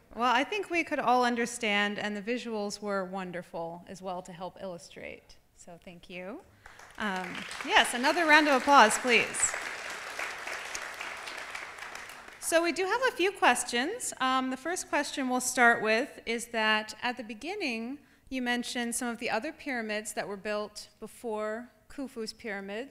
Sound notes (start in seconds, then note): 11.2 applause